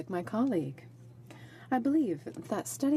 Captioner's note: speaking in french